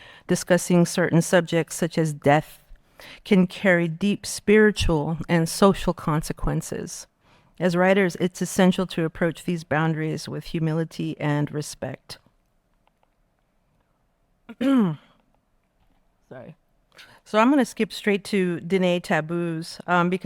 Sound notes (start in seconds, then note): 14.5 clears throat